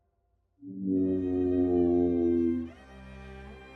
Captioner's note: plane engine roars